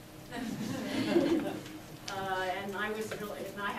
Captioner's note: audience laughs